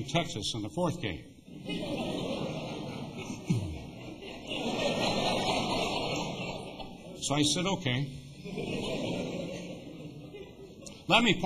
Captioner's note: laughter